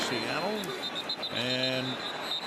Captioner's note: whistle blowing